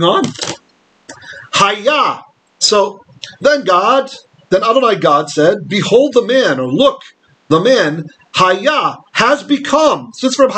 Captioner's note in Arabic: بالعبرية